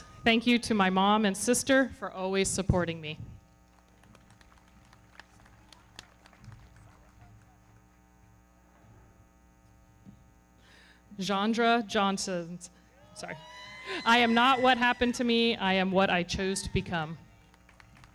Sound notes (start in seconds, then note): 3.6 everybody clapping; 13.0 audience cheering